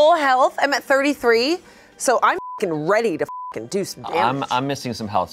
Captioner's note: beep